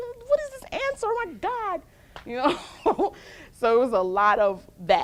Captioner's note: laughs